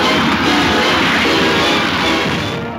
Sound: explosion; movie music

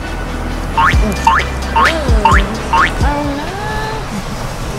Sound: boinging; laughing

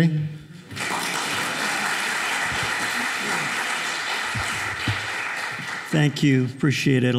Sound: applause

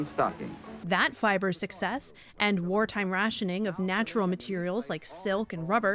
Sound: voice-over

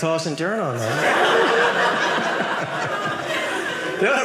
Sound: audience laughing

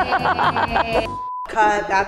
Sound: laugh; beep

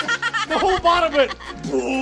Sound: laughing

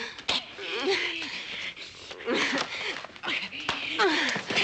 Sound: woman groaning

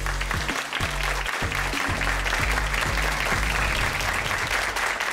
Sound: audience applauding

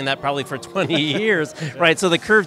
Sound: laughs

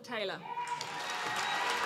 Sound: applause

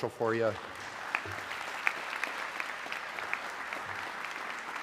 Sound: audience clapping

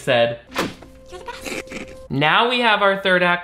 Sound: wig scrunches

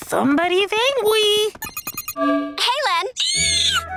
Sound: chiming; squealing

